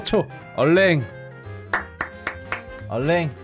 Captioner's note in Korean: 짝짝짝짝